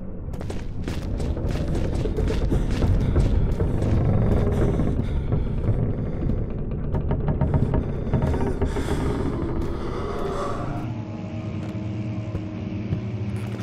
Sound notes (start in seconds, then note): 0.0 quiet howling of wind; 0.3 hurried footsteps somewhere nearby; 4.4 strained groaning of wood; 8.3 otherworldly gasping; 10.5 ambient buzzing